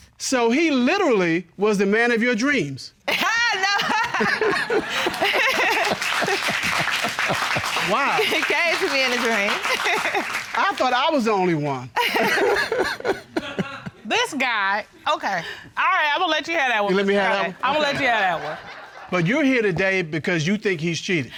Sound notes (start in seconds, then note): 3.1 laughing; 4.3 audience applauding; 9.5 laughs; 12.0 both laugh